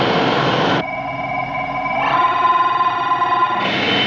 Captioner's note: monitor apitando